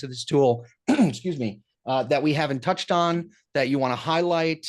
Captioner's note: clears throat